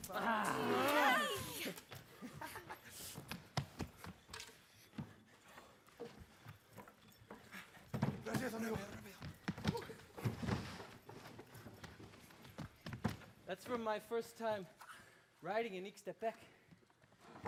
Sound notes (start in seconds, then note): 0.0 performers screaming; 0.2 chattering in Spanish; 8.3 speaking in Spanish